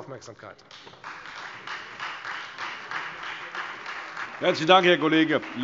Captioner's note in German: Beifall Freie Demokraten